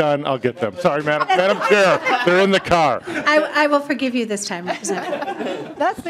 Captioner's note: laughing